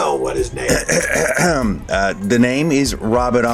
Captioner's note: throat clearing